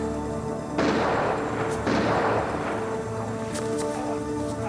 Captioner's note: gun firing